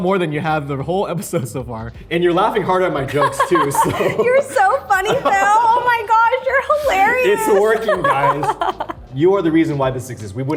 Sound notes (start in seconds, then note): 3.1 Arden laughs; 3.1 laughs; 8.2 Arden laughs